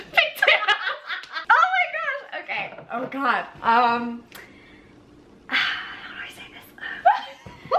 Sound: laughs; whispers "how do I say this umm"; laughs

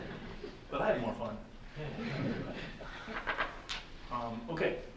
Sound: chuckles

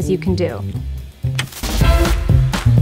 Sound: upbeat music; TV remote click

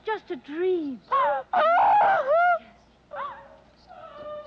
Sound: Anne wailing

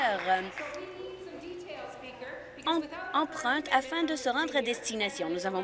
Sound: applause

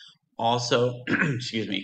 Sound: clears throat

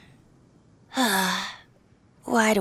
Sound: sigh

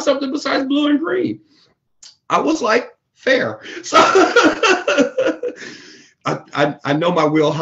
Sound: laughs

